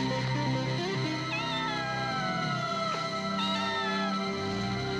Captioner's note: kitten meowing